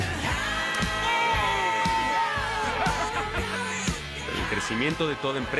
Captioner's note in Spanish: Gritos y exclamaciones